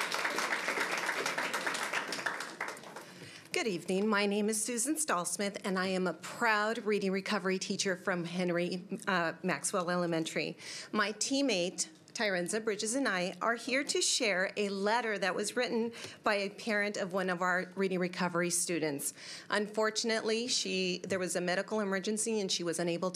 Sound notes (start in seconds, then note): 3.9 applause